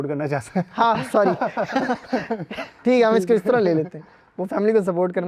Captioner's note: laughs